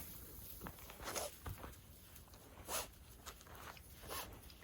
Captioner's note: dog sniffs